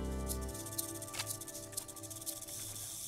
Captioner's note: camera shutter clicks; snake rattling